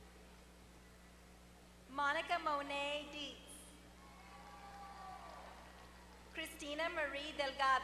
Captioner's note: applause